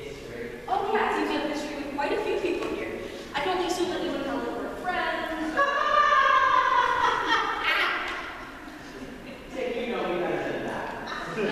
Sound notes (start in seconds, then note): 5.5 cackling